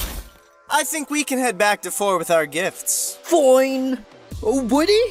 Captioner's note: loud thud; frustrated